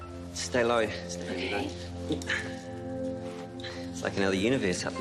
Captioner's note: speaks quietly